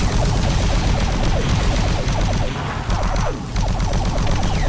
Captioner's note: gun firing